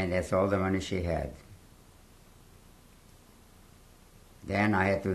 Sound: pauses for 3 seconds

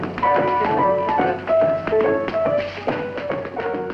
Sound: tap dancing and music

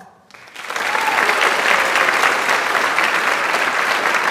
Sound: audience applauds

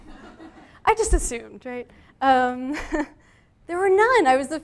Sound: audience laughing; laughs

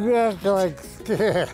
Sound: laugh

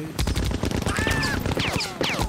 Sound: screaming

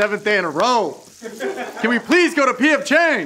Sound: laughing

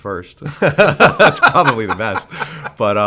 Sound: laughs

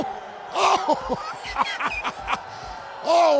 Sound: laughter

